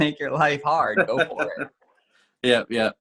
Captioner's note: chuckles